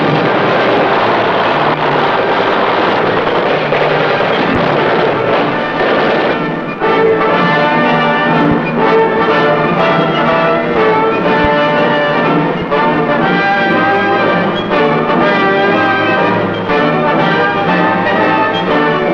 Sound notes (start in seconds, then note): 10.2 bomb explodes